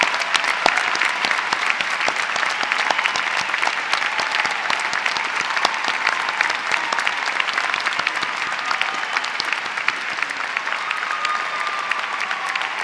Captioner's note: applause